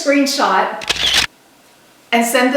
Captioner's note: camera shutter clicking